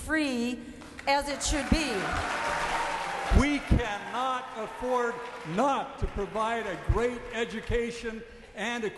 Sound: cheering and applause

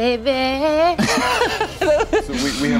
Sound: laughing

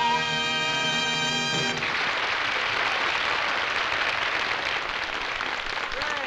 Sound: applause

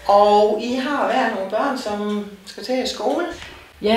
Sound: in Danish

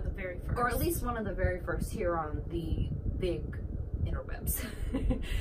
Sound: laughs

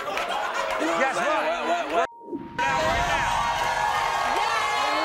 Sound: beep; crowd cheering

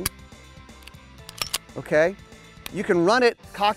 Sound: cocks gun; dry fire click

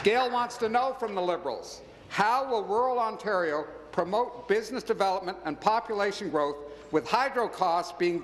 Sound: applause

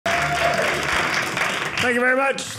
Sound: audience cheering

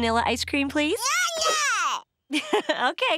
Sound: babbling

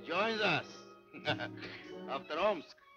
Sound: laughing

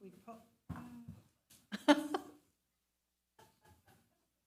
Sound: attendees laughing

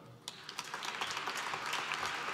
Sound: applause

